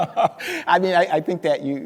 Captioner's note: speaker laughing